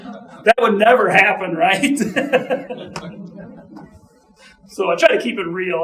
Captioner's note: audience laughing; chuckling